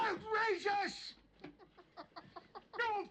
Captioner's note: lawrence laughs